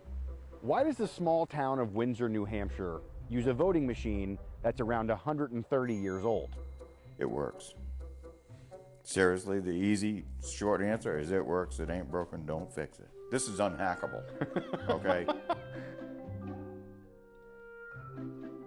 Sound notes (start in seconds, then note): 14.3 chuckles